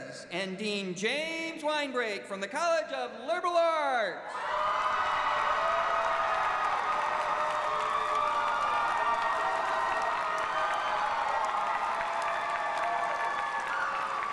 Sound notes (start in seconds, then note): 6.4 cheers and applause